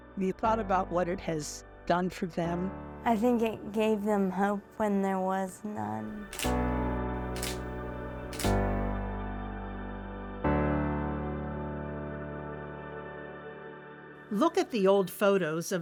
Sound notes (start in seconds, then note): 6.3 gentle music; 7.2 camera shutter clicking; 9.3 gentle music